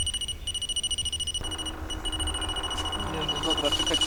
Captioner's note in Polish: dzwonek